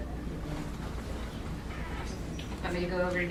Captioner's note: whispering